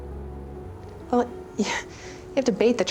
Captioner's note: scoffs